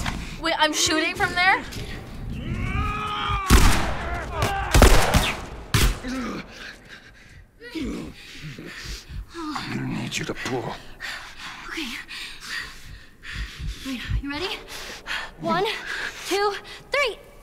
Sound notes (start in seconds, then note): 2.2 approaching men scream; 2.2 gunshot; 4.3 Joel groans in pain; 4.7 gunfire exchange; 12.7 Joel's heart thumps; 15.1 Joel breathes frantically